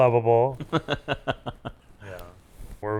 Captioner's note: laugh